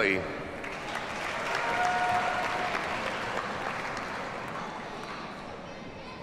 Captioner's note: audience cheers and applauds